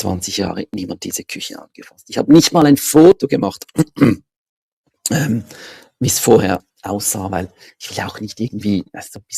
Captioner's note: ahem